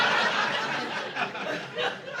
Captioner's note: audience laughing